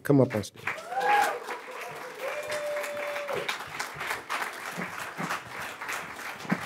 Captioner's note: audience cheering and applauding